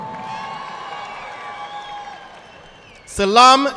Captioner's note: audience applauding